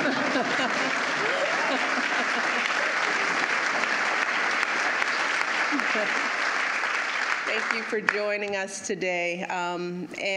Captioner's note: applause